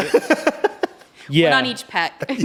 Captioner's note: laughs